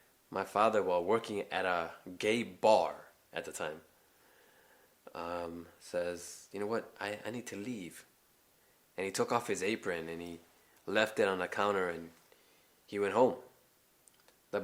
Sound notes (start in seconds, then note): none